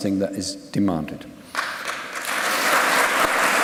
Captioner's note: applause